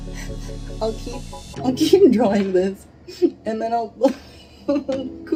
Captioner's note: laughs